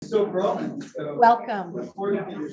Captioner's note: indistinct conversation